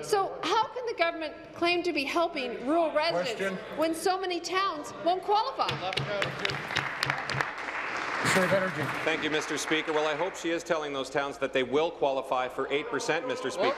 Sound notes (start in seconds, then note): 9.7 applause